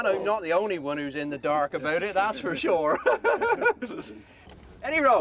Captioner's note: chuckles